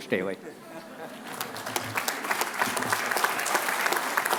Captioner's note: applause